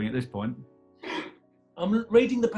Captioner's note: laughs